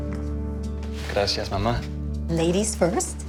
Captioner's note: speaking Spanish